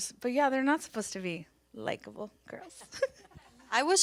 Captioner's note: giggles